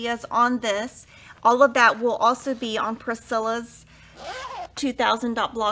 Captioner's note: zipper vibrates